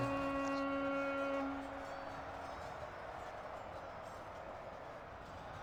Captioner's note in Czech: Potlesk